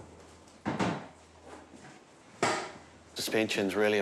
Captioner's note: thudding